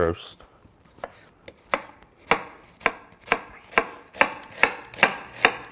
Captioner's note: knife knocks against the cutting board